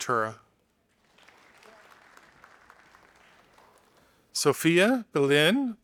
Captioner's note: audience applauding